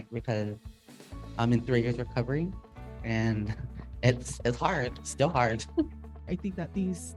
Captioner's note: chuckles